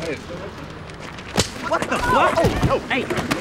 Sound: fist striking

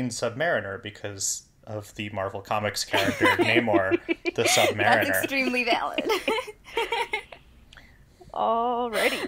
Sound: laugh

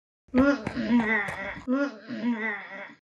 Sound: struggle noises

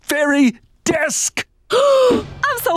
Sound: gasping

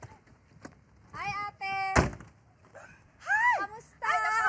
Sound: car door closes

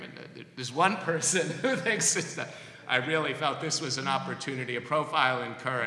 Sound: laughs

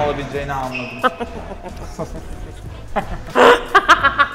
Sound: evil laughter

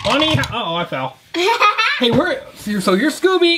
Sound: laughing

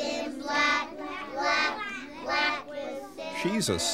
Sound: children speaking

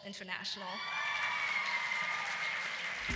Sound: applause

